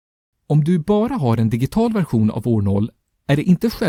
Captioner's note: in Swedish